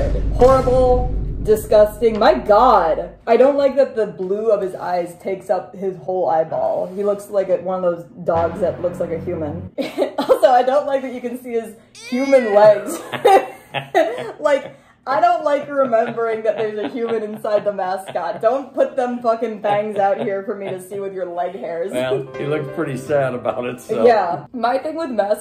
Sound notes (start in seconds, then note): 0.0 boom; 8.3 ominous sound; 14.5 laughing; 21.9 sad music